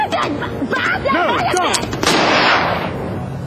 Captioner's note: gunshot